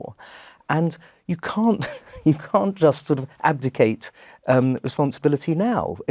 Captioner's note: laugh